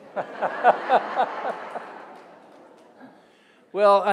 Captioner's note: audience laughing